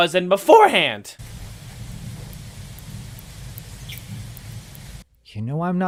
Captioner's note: steam